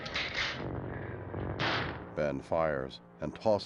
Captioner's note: gunshot